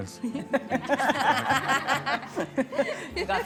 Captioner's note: both laughing